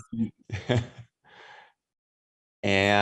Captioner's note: laughs